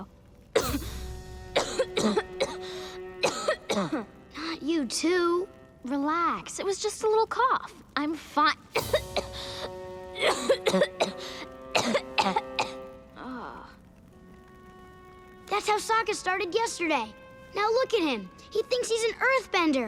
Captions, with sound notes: [coughing] Not you too. Relax. It was just a little cough. I'm fine. [coughing] [groaning] That's how Sokka started yesterday. Now look at him. He thinks he's an earthbender.